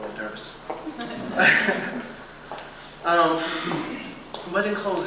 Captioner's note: laughter